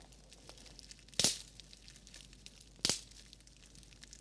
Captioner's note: crack!